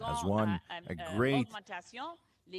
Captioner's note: speaking in French